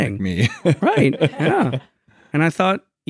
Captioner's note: laughing